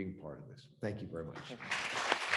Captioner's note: applause